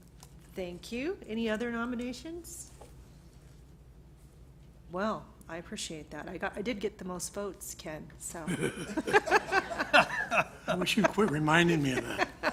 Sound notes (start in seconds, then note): 8.4 laughter